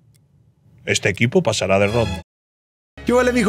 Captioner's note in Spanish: voz de locutor